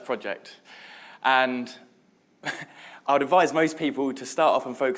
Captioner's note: laughs